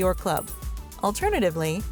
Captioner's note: coins clanging